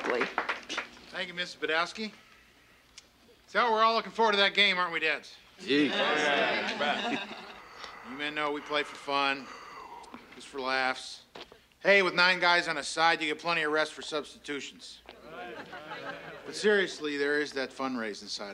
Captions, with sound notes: - Thank you, Mrs. Badowski. So, we're all looking forward to that game, aren't we, dads? - Yeah. - Oh, yeah. You bet. - You men know we play for fun. (Howard yawning) Just for laughs. Hey, with nine guys on the side you get plenty of rest for substitutions. (parents chattering) (parents chuckling) But, seriously, there is that fundraising side of things.